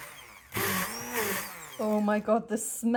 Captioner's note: blender